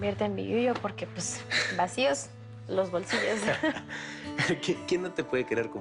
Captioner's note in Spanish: Risas